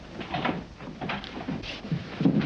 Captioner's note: door opens; thuds